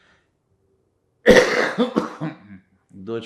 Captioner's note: coughing